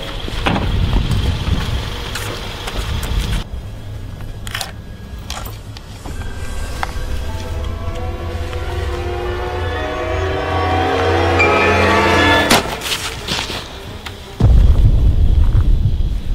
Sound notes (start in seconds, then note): 0.3 footsteps crunching; 6.4 suspenseful music; 12.4 gun shots firing